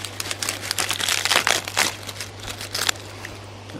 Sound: crunching

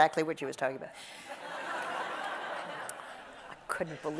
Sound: audience laughs

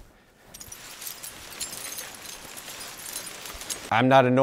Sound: glass shards crunching

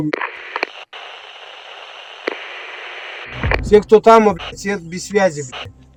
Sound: radio interference

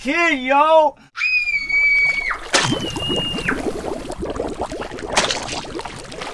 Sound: screaming

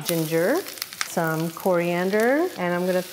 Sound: ginger sizzling

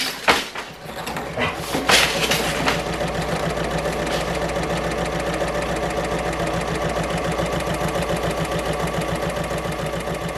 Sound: sewing Machine Sounds

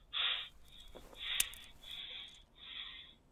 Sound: space twig snaps

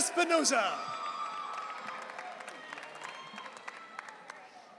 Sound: audience cheering

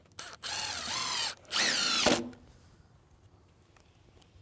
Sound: drill whirs

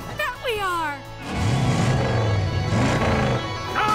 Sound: revving

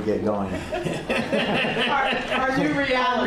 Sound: laughter

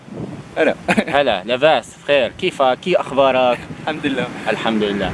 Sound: broken Syrian Dialect

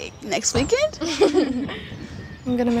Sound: group chuckling

